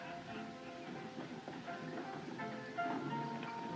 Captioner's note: hoofbeats